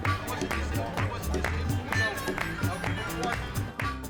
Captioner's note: people chattering